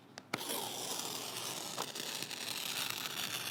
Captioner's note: pages ripping